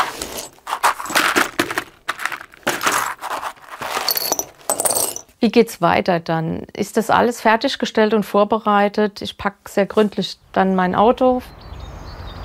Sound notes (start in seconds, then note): 2.3 clanking